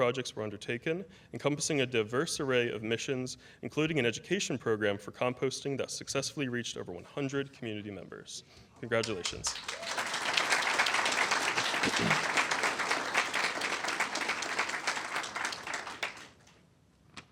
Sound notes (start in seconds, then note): 14.1 applause